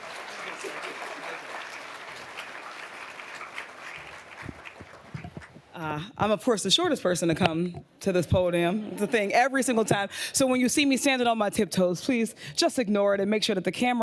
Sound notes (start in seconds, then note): 8.6 audience laughing